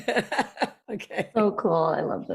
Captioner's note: chuckles